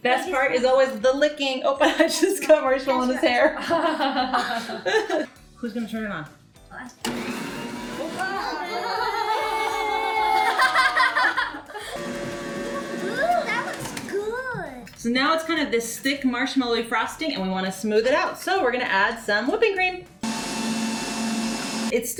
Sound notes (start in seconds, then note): 3.3 laughs; 7.0 motor whirring; 8.0 kids laughing; 20.2 motor whirring